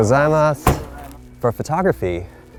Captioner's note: speaks Japanese